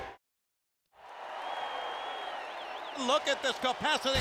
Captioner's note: audience cheering and clapping